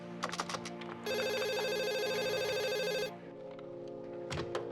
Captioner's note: keyboard keys clacking; telephone ringing